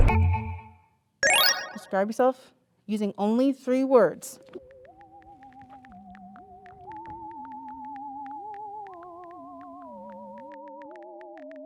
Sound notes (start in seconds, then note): 0.3 dinging sounds; 4.5 typing sounds; 4.8 futuristic music